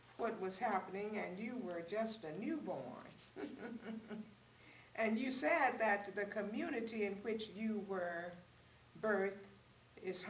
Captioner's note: laughs